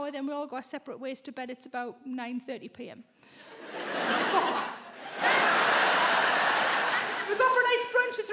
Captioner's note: audience laughs